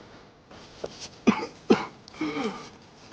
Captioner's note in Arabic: سعال سعال سعال